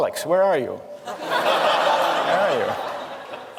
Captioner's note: laughter